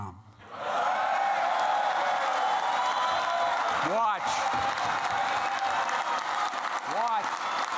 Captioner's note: applause